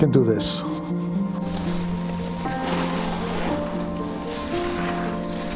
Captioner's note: skis scraping